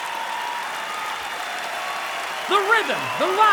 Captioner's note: applause; cheering